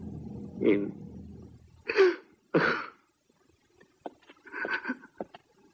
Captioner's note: sobs